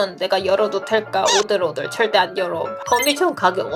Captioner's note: shivering